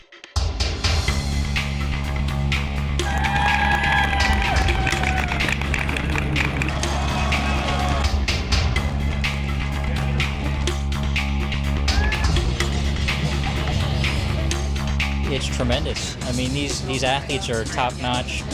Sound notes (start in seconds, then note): 0.3 active music; 3.0 cheering and clapping; 4.5 active music